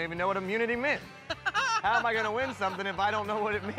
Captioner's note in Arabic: إيثان يضحك